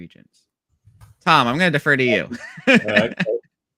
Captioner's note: laughs